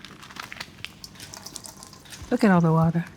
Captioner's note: water dripping